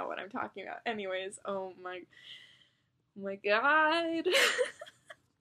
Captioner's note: laughs